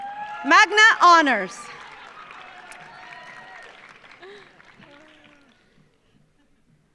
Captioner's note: audience cheering; audience applauding